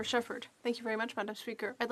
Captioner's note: speaking French